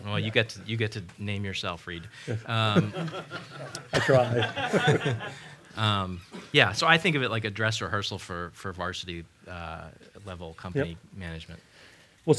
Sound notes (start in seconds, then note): 4.6 laughter